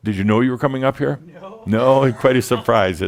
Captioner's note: he chuckles